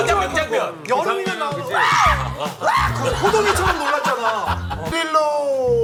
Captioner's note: Jiwoo's scream